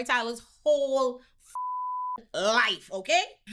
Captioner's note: beep